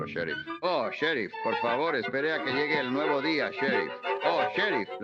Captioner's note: shouting for the sheriff; still shouting